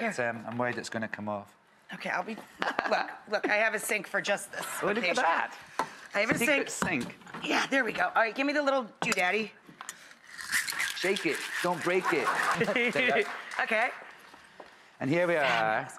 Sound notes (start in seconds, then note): 11.8 laughing